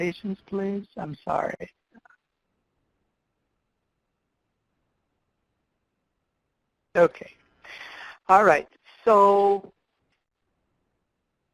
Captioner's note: pause